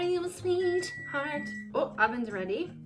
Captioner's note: oven beeps